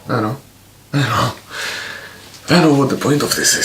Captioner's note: sigh